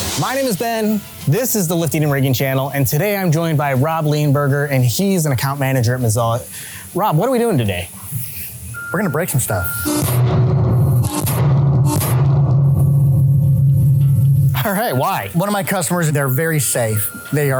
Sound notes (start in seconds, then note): 11.2 metal thuds